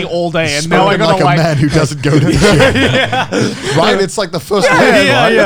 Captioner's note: laughing